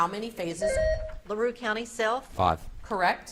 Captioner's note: beep buzzing